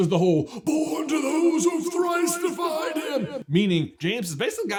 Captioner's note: Trelawney voice